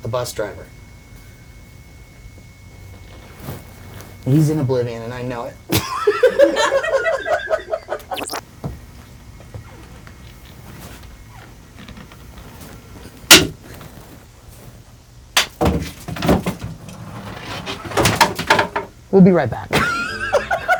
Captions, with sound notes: the bus driver. He's in oblivion and I know it (laughing). (wood thumping) We'll be right back (laughing).